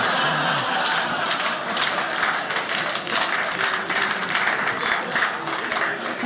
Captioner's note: audience laughing; audience clapping